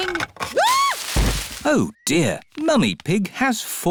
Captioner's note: thuds; screams